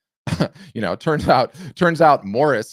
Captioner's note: chuckles